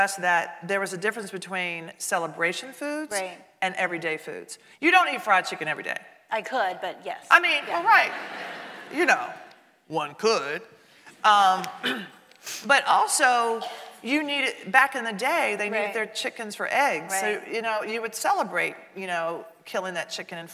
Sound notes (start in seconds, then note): 7.5 audience laughing